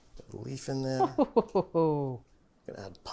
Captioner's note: chuckling